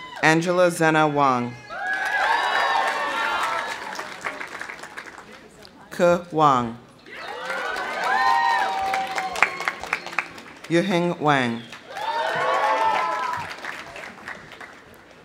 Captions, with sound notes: Angela Xena Wang. (audience cheering) (audience applauding) Ke Wang. (audience cheering) (audience applauding) Yuheng Wang. (audience cheering) (audience applauding)